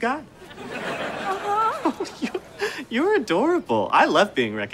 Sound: chuckles

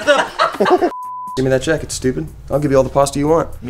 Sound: people laugh; beep

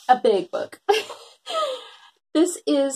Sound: laughs

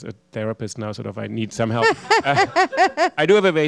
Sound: laughter

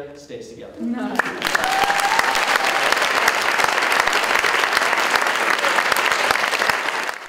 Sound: audience Applauding

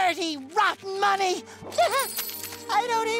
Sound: whimpering

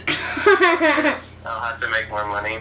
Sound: laughs

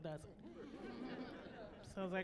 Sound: chuckling

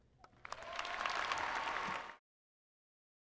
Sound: applause

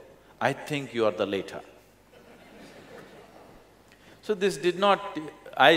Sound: laughter

